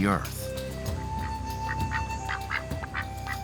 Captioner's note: quacking